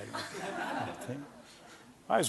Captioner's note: laughter